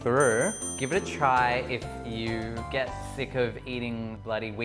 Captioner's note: loud ding